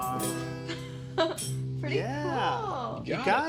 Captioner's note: Angelia chuckles